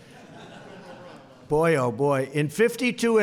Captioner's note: laughter